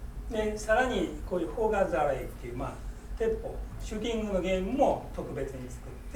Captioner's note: speaking in foreign language